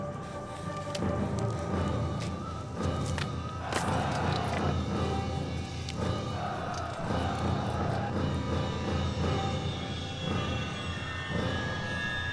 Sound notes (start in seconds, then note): 3.5 dark elves yelling